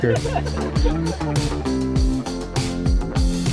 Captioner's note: laughing; upbeat music